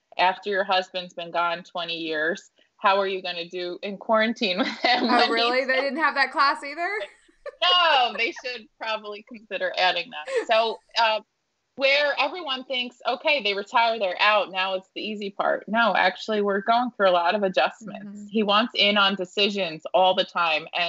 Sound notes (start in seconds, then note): 7.4 laughing